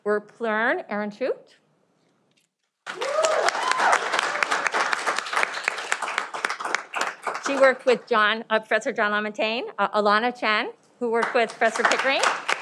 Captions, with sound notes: Plearn Aroonchote. (cheering) She worked with Professor Jon Lamontagne, Elana Chan, who worked with Professor Kidring,